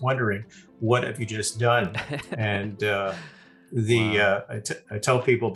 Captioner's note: chuckling